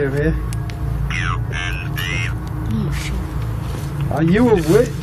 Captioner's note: Ovilus speaking